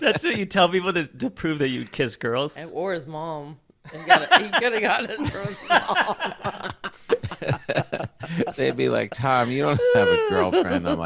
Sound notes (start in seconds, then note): 6.3 everyone laughing